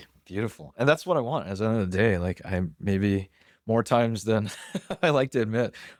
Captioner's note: laughs